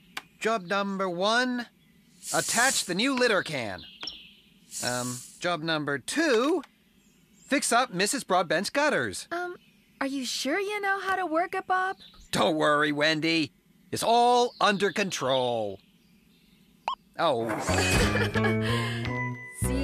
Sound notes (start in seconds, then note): 16.8 beep!; 17.2 laughing